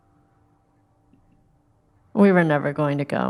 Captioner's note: music stops